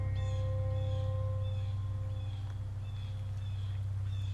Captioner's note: birds chirping; music fades